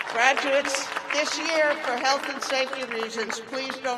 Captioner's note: cheers and applause